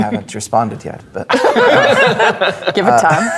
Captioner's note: players laughing